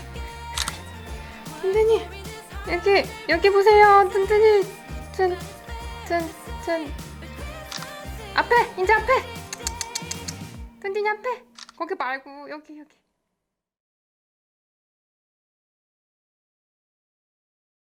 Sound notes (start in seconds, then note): 0.5 SFX: Snapping shots; 9.5 clicking tongue